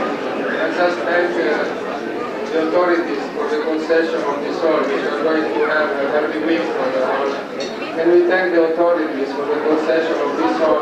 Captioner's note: italian